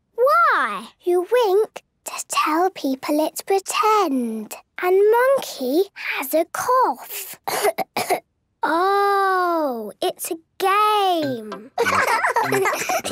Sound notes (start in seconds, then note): 7.4 pretending to cough; 11.7 laughs